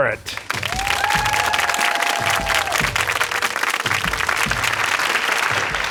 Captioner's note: cheers and applause